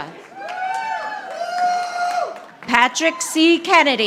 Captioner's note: audience applauding